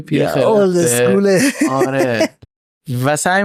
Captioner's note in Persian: خنده